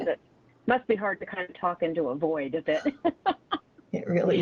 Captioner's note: laughs